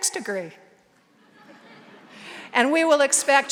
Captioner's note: audience laughing softly